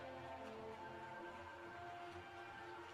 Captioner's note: cheers and applause